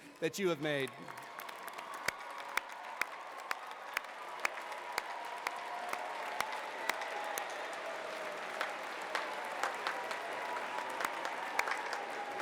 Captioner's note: cheering and applause